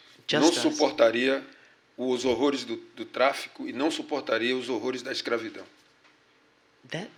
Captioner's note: speaking portuguese